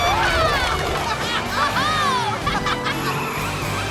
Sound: laughing

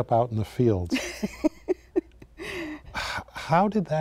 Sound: laughing

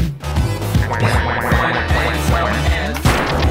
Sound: quacking; boom

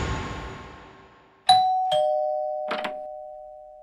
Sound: doorbell rings

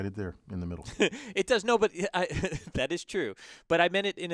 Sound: laugh

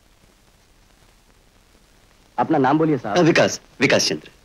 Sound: none

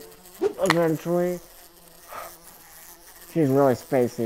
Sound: fly buzzing

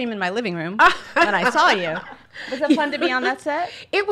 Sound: laughs

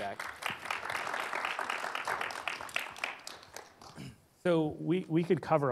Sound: audience applause

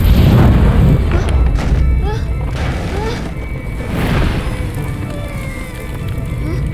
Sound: fire crackling and rumbling

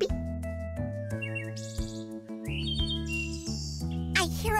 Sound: bird chirping

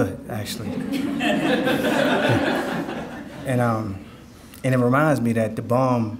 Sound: audience laughing

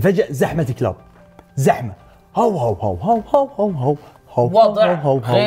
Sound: imitates dog's barking

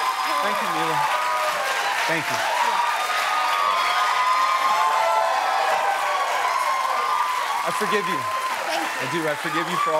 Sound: cheers and applause

